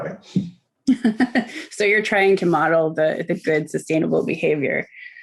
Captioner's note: laughing